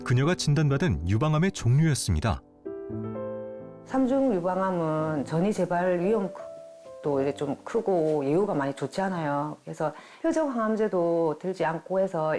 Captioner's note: voiceover